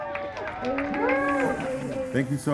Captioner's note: cheering